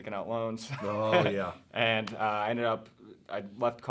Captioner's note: laughing